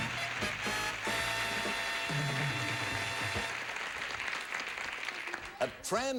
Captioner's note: audience applauding